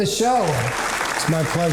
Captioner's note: applause